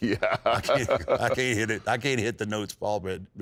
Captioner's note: laughs